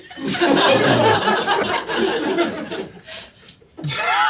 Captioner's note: audience laughing; laughing